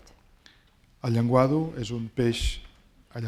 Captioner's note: speaking spanish